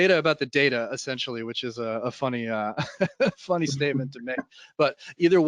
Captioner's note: laughs